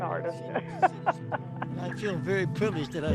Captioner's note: laughing